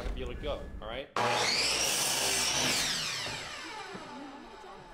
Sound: buzzing saw

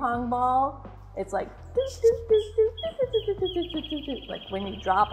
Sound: mimics the sound of a bouncing ping-pong ball

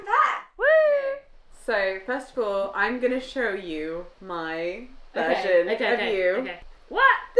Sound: excitedly

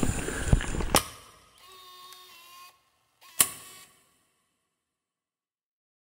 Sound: inhales deeply; video recorder clicks and hisses

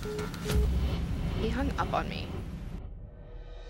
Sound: phone beeps

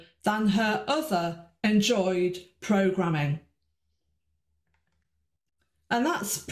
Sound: none

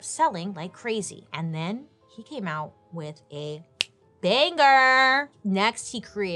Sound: snaps

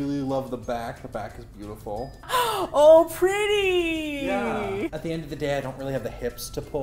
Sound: gasps

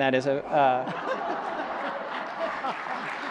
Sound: audience laughs; laughs

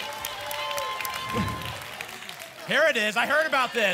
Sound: applause and cheering; whoosh

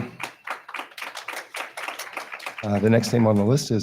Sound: attendees clapping

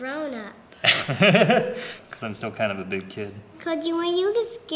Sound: laughter

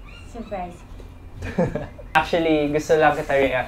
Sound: giggles

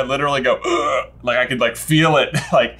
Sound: grunts

